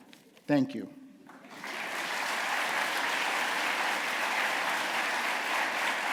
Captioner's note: applause